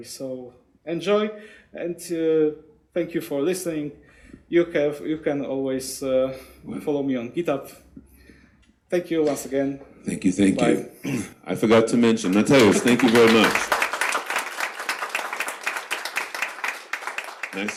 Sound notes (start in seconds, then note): 10.9 clears throat; 13.9 audience applauds